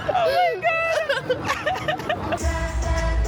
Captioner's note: both laughing